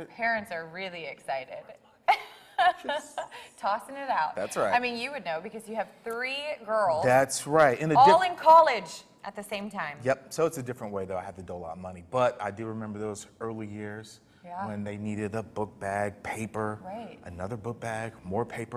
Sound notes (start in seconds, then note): 2.2 laughs